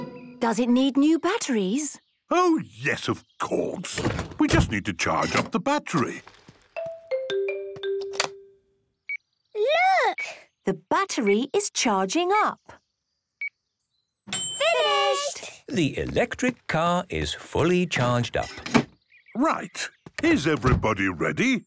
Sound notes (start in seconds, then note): 8.0 clicks; 11.2 meter beeping; 14.3 dings